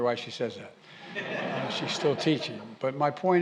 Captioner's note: laughter